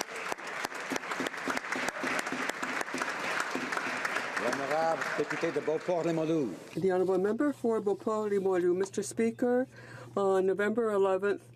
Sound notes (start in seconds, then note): 3.6 some Applause